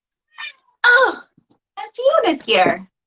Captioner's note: cat meows